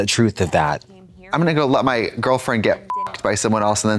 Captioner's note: beep